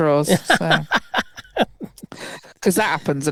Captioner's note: laughing